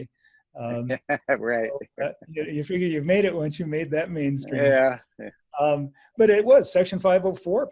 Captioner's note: laughs